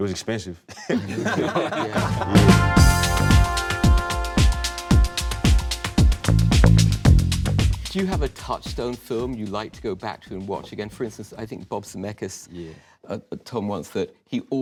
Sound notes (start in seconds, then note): 0.7 laughter; 2.8 upbeat music